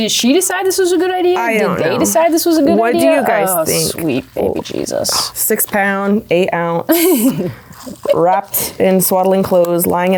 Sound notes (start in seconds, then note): 6.8 laughing